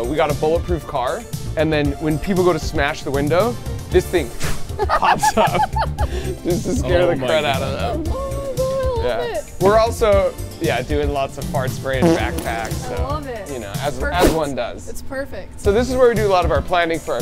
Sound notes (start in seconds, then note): 4.3 imitating whooshing; 4.7 laughing; 11.9 backpack farting